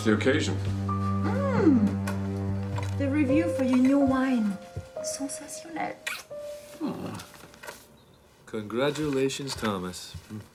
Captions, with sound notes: - What's the occasion? - Mmm, the review for your new wine, (speaking in foreign language) - Aw. - Congratulations Thomas.